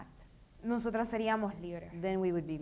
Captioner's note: speaking in foreign language